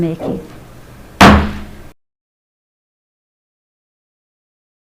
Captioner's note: gavel bangs